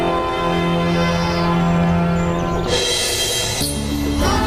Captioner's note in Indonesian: lonceng